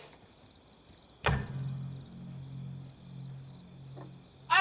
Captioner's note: light strikes